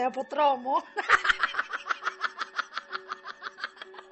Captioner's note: evil laugh